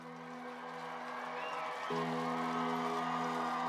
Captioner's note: crowd cheering